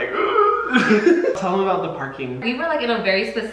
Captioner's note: Hyram laughing